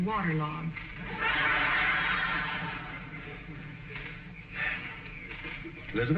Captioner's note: audience laughing